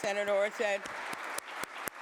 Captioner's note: applause